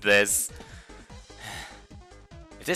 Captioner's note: sigh